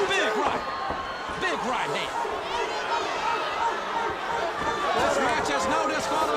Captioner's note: crowd cheering